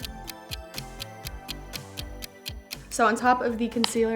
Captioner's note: clock ticks